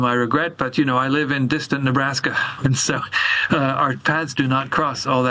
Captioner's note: laughs